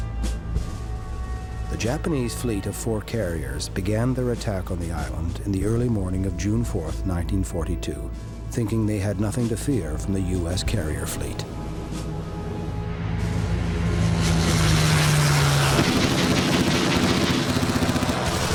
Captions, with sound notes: The Japanese fleet of four carriers began their attack on the island in the early morning of June 4th, 1942, (plane engines roaring) (guns firing)